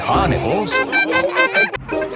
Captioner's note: laughing